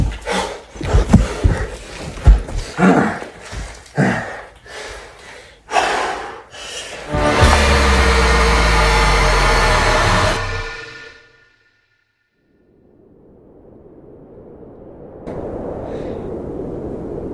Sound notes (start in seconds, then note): 10.5 music stops; 12.6 wind howling